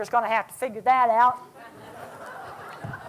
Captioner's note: laughter